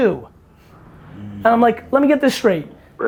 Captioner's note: Kai Greene hums